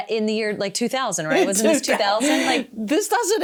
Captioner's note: laughs